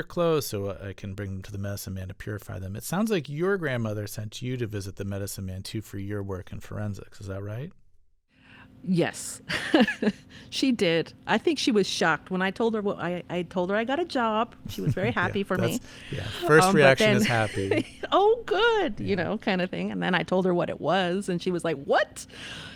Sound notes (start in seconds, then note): 9.4 laughter